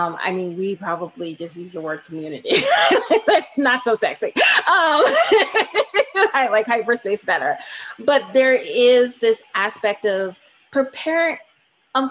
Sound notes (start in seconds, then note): 4.4 laughing